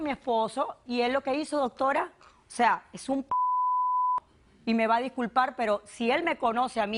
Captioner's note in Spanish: Bip